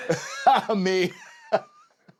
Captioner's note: laugh